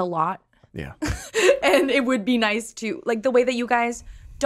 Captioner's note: laughs